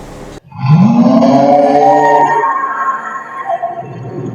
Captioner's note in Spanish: Sonido de rugido gutural